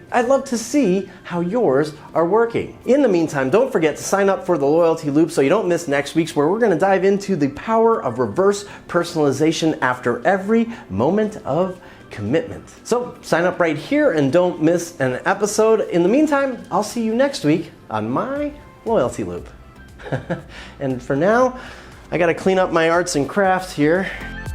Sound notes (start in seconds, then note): 20.0 laughs